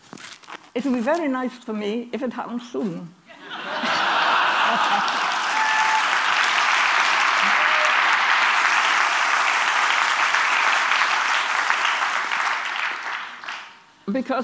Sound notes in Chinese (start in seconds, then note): 3.3 Laughter; 3.3 笑聲